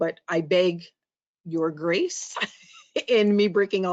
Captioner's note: chuckles